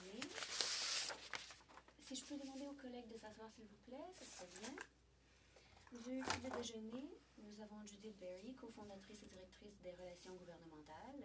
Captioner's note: speaking French